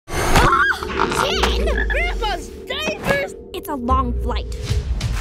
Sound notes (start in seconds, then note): 0.4 girl screams; 0.8 frog croaks